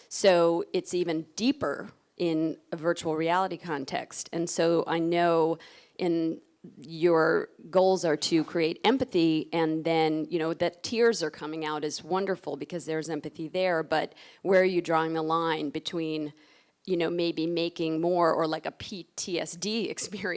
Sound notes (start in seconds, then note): none